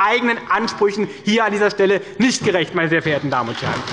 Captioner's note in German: Beifall bei der SPD